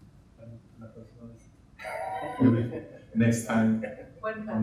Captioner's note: speaking in Spanish